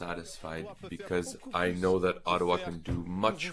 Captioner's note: speaking French